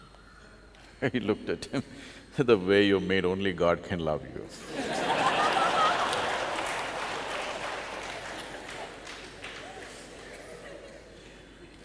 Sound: laughs; laughter/Applause

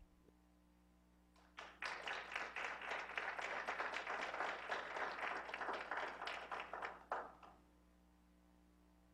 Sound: clapping

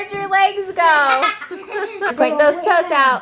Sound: laughing

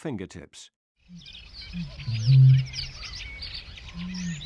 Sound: birdsong

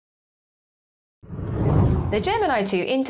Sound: screen whooshes

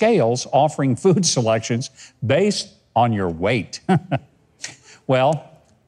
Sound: chuckles

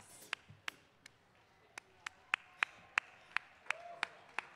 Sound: audience clapping

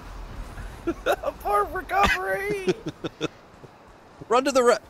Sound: laughter

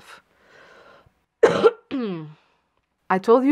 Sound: coughs

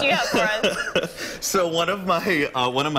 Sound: laughter

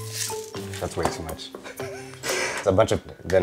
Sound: laughs

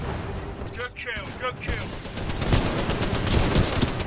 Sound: radio

